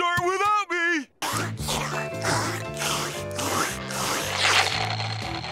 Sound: slurping

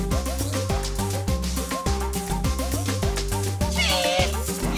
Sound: plants chattering

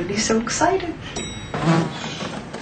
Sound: elevator dings; fly buzzing

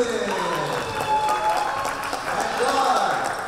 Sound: applause

